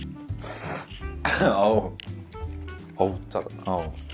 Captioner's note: cough...ay